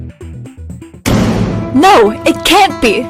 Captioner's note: door slams open